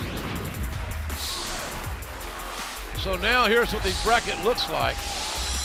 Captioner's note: cheers and applause